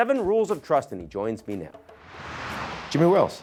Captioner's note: screen whooshing